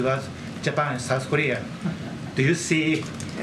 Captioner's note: laughs